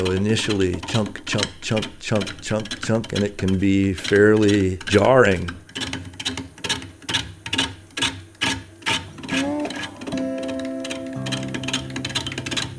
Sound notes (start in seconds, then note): 5.7 wood scraping; 9.2 slow music